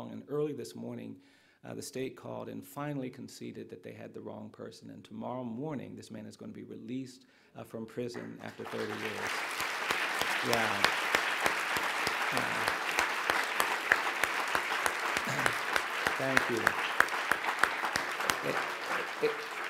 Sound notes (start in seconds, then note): 9.7 applause